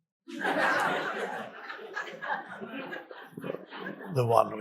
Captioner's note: audience laughs